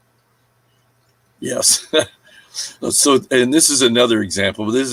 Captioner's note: chuckling